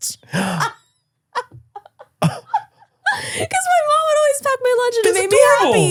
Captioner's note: laughs